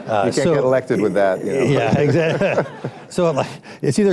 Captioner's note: laughs; laughter